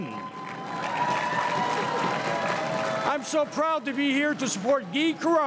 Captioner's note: crowd cheering and applauding